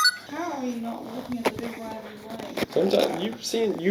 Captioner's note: device chirps; indistinct chatter